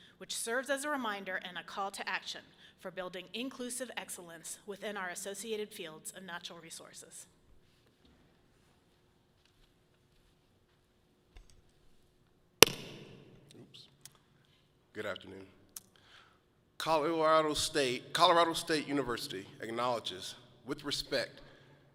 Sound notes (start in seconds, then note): 12.6 mic clicks loudly